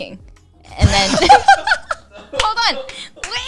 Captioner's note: all laughing